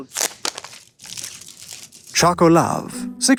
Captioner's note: wrapper tears